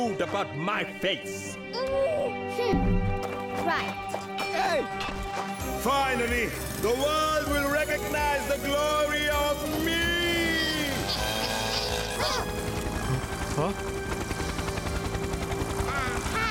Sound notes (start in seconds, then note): 10.0 saw buzzing; 12.7 humming